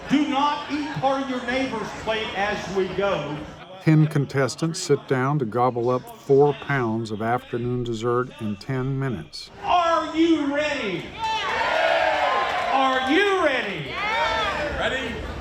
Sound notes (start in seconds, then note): 11.4 crowd